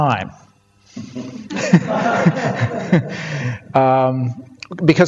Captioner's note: audience laughter